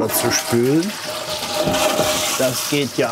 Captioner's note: sound of water